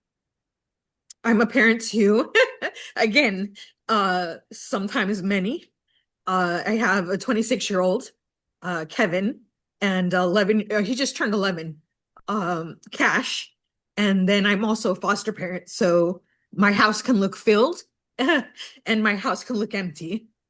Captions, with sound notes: I'm a parent too, [LAUGHS] again, sometimes many. I have a 26-year-old, Kevin, and 11-- he just turned 11, Cash. And then I'm also a foster parent, so my house can look filled, and my house can look empty.